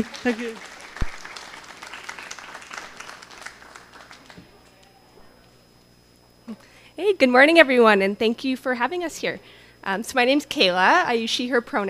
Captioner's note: cheering